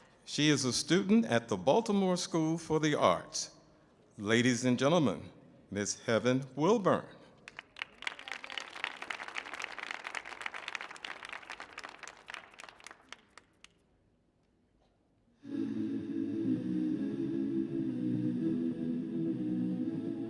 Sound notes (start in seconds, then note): 7.4 audience applauding; 7.9 audience cheering; 15.7 melancholic music